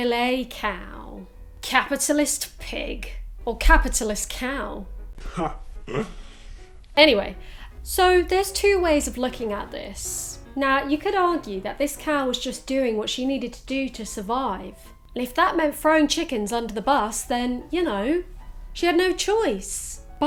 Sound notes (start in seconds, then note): 5.8 laughs